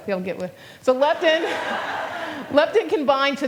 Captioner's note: laughter